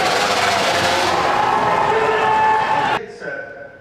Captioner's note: crowd cheers